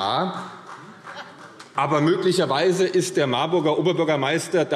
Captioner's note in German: Beifall